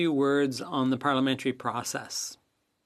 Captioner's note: speaking French